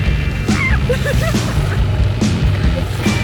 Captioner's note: laughs!